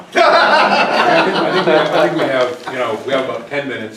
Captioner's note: laughter